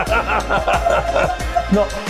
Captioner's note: laughing